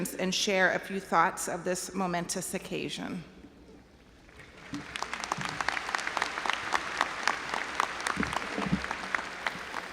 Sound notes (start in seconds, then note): 4.3 audience applauding